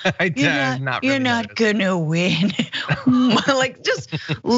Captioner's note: laugh; laugh